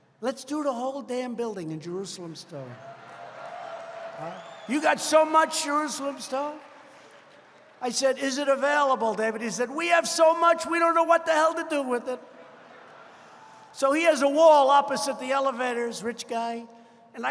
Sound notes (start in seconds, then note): 2.7 applause; 12.2 laughter